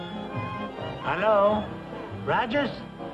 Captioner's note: telephone rings; spanish accent